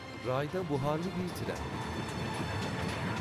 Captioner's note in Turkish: Tren sesi